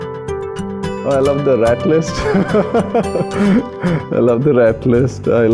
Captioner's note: laughs